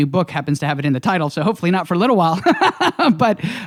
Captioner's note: laughs